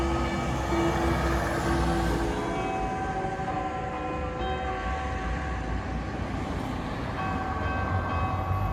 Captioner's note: chimes in the clock tower